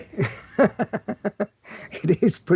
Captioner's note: laughs